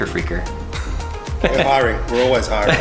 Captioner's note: soft chuckles